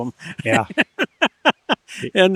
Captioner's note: laughs